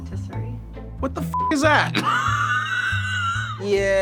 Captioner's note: laughs